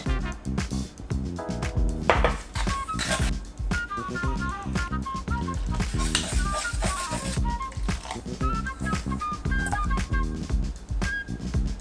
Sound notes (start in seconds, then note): 0.1 jar tapping; 0.1 spoon scraping; 5.3 water pouring; 6.0 spoon stirring; 7.7 water pouring